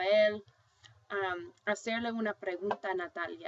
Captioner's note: speaking spanish